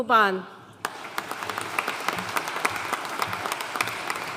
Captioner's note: audience applauding